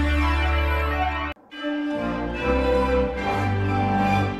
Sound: majestic chime plays

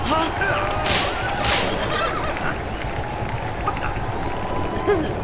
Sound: whip cracking; horses whinnying

